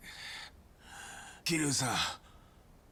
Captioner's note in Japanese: 息をのむ音; ため息